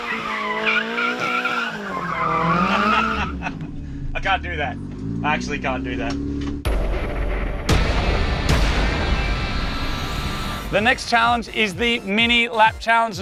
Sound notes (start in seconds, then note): 2.8 laughing